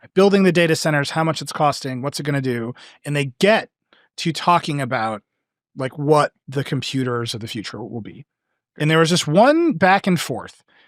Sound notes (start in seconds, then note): none